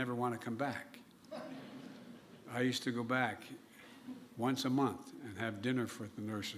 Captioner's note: laughter